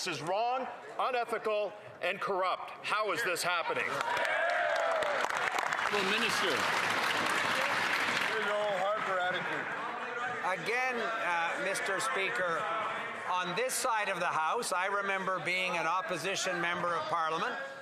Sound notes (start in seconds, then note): 9.1 some Applause